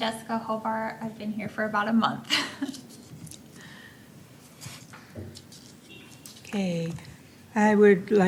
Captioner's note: laughter